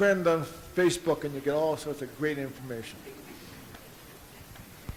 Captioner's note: audience giggles